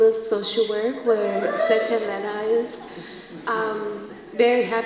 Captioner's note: students cheer